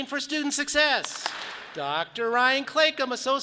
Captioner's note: audience claps